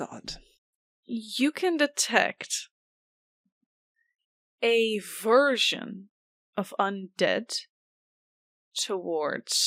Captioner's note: audibly smiling in a super concerning way